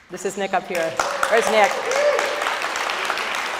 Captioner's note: audience applauds